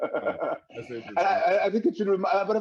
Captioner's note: laughs